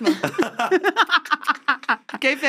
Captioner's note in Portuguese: risos